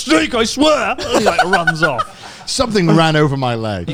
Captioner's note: and announcer laughs